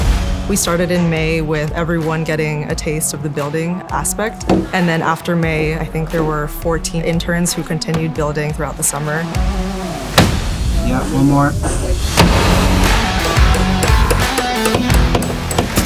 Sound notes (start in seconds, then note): 12.1 rock music; 12.1 hammer; 12.2 sound of construction tools